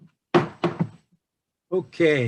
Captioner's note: bang, bang